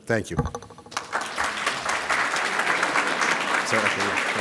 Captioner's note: audience applauds